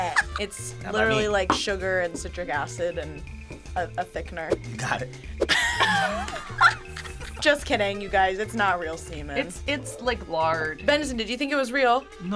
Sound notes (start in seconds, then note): 5.4 group laughs